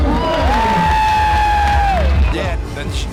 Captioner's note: crowd cheering